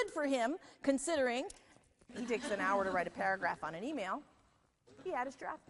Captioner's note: audience laughter